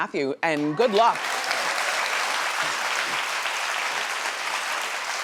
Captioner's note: audience clapping